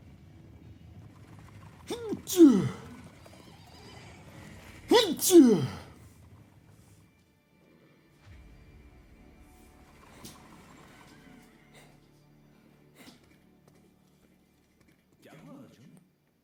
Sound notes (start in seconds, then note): 1.8 horses neigh; 1.9 Bhishm grunts; 8.2 dramatic music playing